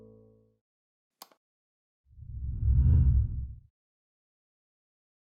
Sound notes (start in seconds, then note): 2.2 logo whooshing